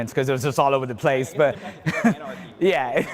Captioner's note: laughs